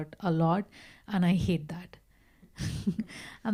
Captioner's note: laughs